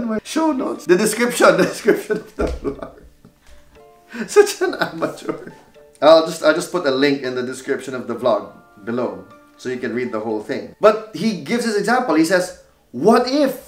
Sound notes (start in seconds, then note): 1.7 laughs to himself